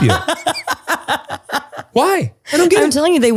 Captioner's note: laughs